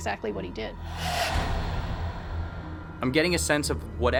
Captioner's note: ghostly sound